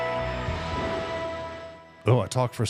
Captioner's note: thunder rumbling